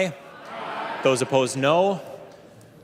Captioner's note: chorus of ayes